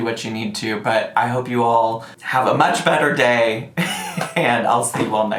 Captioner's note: laughs